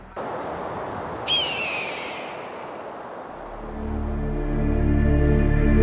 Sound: hawk cawing; gentle music

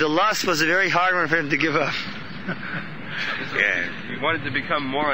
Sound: laughs

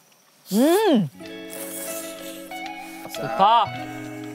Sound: slurping

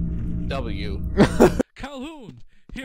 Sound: laughs

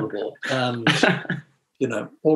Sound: laughs

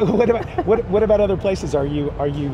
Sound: laughing

